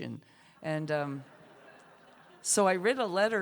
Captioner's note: laughter